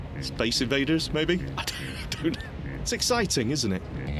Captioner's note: laughs